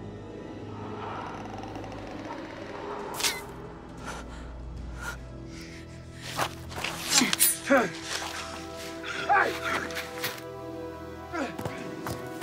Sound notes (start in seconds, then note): 0.2 croaking; 2.9 bones crack